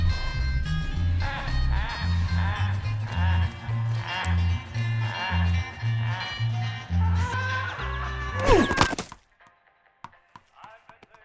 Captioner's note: Joker laughs